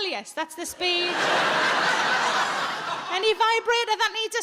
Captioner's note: audience laughing